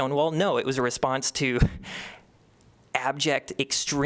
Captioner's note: laughter